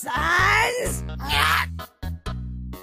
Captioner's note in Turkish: Manyakçıl İskelet Sesleri